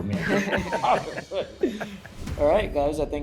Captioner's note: judges laugh